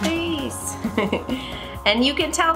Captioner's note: chuckles